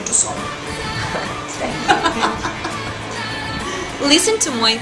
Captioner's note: laughing